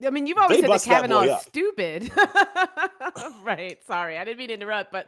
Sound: laughs

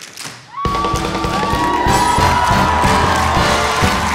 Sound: crowd cheering

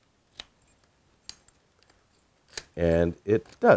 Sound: hardware clicking

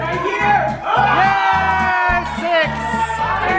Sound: group cheers

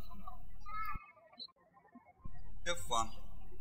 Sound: birds chirping

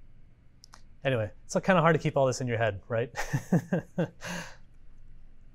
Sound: laugh

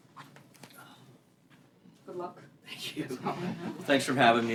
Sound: laughter

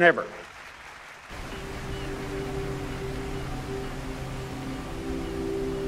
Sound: applause

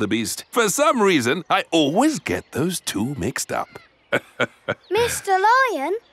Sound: laughs

